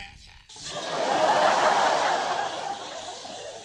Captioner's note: laughter